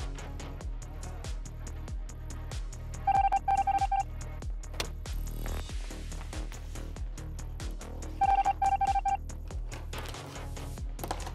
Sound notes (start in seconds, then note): 3.0 machine beeping; 4.7 paper slams; 8.2 machine beeping